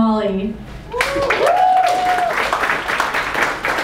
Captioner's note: applause